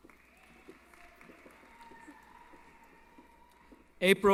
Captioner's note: applause